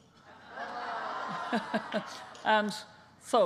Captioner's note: laughing